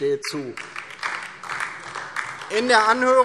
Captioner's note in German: Beifall DIE LINKE